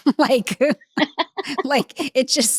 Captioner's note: laugh